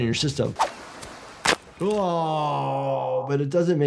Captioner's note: joint cracks